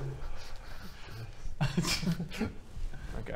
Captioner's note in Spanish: risita